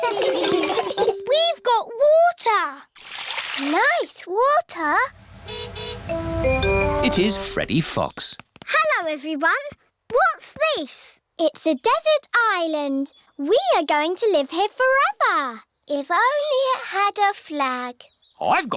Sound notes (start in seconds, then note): 0.0 laughter; 5.1 horn honking